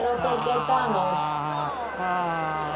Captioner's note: Disappointed screams from Italy